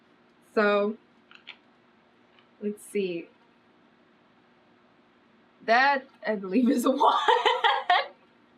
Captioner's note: laughs